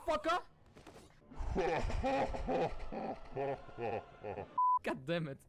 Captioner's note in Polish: niecny śmiech